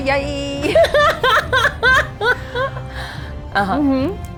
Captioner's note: laughing